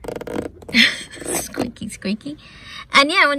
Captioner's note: laughs